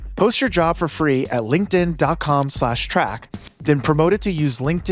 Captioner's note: none